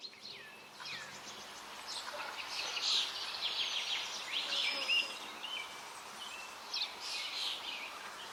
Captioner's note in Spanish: sonidos de río, trino de pájaros